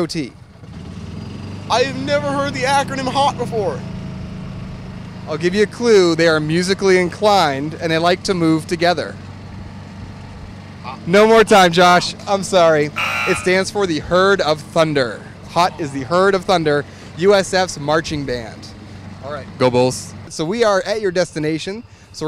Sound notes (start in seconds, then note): 12.9 buzzer